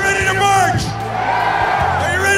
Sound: cheers

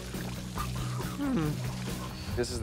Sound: gurgling; sighs

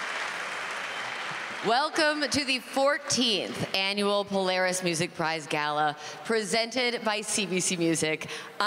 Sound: applause

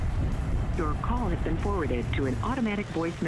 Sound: robot voice

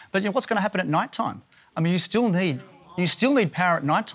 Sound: none

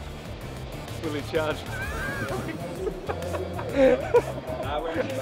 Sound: laughing

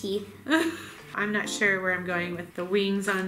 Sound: laughs

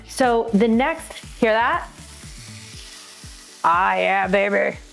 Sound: patty sizzling

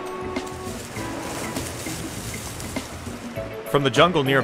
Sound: grass and leaves rustling

